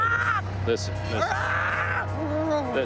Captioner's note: screams